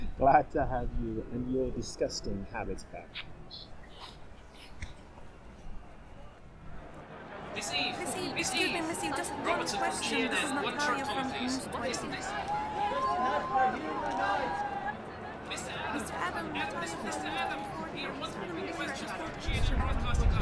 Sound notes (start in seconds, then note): 7.3 journalists calling, shutter sounds; 13.0 crowd; 15.6 reporters calling out